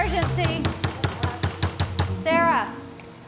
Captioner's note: knocking